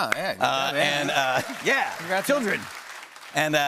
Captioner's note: cheers and applause